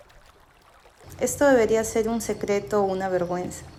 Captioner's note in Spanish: sonidos de agua, luz reflejada en el agua y voz off femenina #4